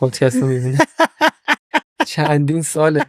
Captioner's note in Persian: خنده